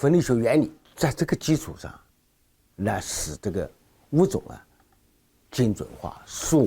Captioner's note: speaking in foreign language